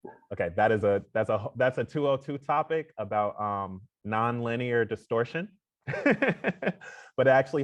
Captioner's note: laughs